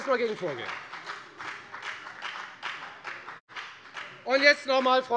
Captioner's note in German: Beifall bei der FDP